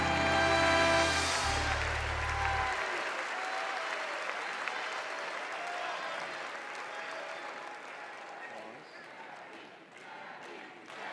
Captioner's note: cheers and applause